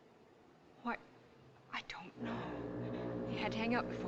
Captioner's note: foghorn Blows